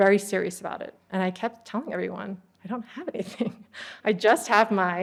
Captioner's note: laughter